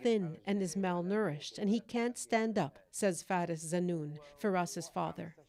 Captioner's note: speaking Alternate Language